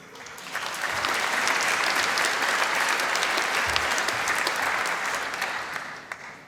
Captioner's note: applause